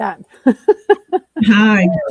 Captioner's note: laughs